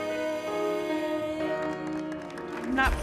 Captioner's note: applause